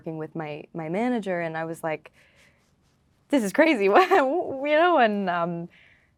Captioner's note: laughing